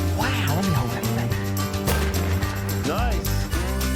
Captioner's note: gun bangs